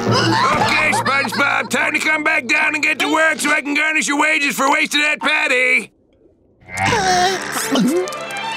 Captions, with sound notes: Okay SpongeBob, time to come back down and get to work so I can garnish your wages for wasting that patty! [whimpering]